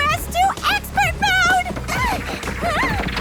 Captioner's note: mandy laughs